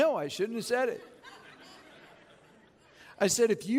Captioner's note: chuckling